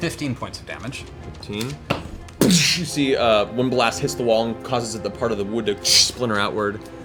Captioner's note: gunshot